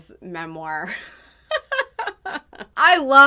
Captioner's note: laughing